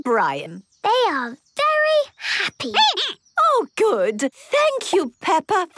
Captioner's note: squeaking